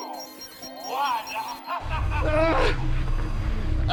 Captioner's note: evil laugh